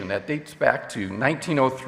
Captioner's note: none